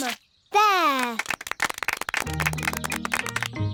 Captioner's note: applause